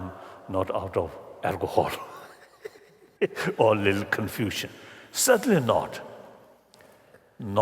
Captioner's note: laughter